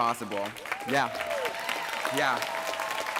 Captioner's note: applause